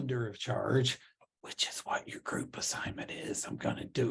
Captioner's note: whispering